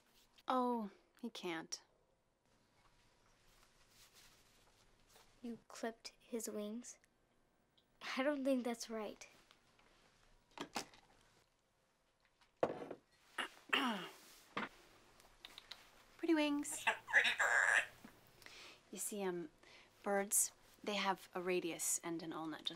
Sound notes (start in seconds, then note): 13.4 clears throat; 16.7 clucks